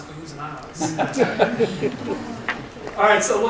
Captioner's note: attendees chuckling